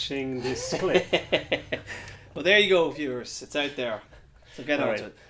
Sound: laughing

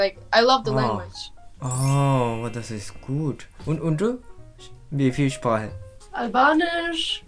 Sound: German

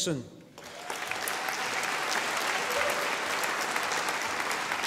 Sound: audience applauding

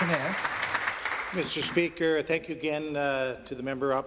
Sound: some Applause

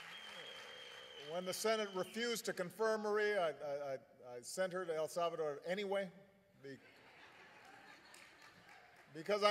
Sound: applause; laughter

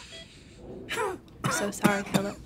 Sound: coughing

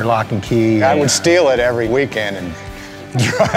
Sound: laughs

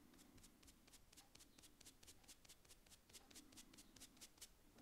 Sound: sponge scratching

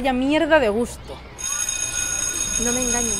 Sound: bell sound

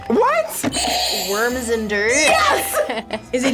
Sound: buzzer rings

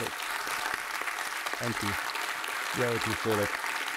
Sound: audience applauding

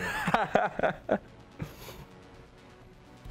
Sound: laughs; fast paced, futuristic music

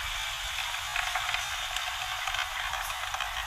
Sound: machine sound

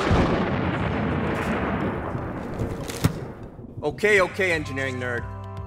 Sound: thunder

